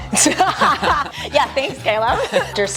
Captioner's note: both laughing